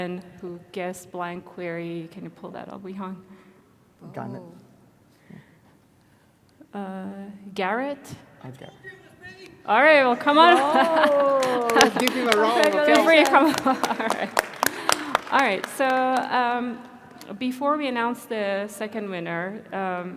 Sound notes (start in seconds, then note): 13.4 crowd applauding